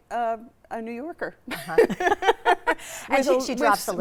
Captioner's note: both laughing